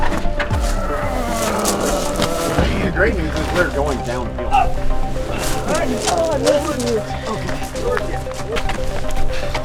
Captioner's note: grunting